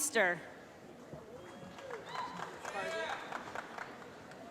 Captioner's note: applause